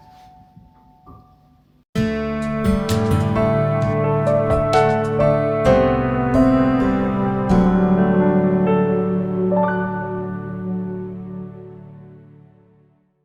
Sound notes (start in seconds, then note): 2.5 clap